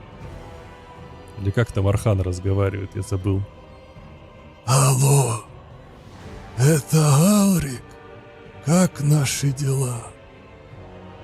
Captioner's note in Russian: стон